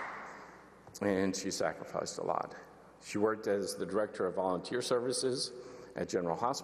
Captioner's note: applause